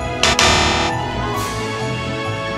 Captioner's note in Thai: เสียงเตือนรหัสผ่านผิด